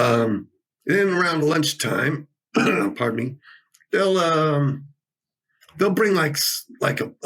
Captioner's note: clears throat